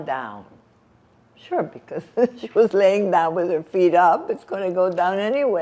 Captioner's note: laughing